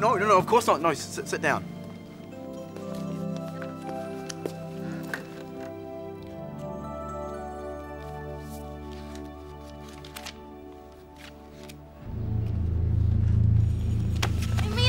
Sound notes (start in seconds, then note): 9.8 pages crinkling; 12.0 ominous tone